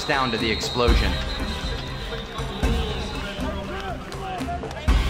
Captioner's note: arena Announcer and Crowd